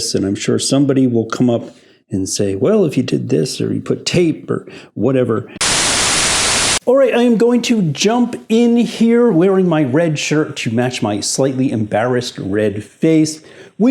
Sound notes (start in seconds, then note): 5.6 static noise